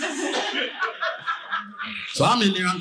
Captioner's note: audience laughing